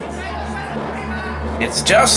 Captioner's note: crowd shouting